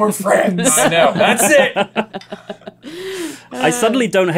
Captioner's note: laughter